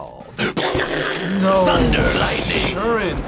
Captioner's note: mimics thunder